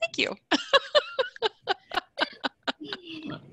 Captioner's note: laughing